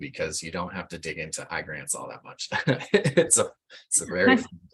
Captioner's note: laughs